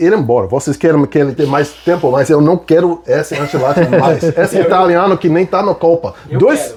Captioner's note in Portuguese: risadas